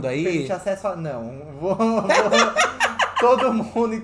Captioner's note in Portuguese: risadas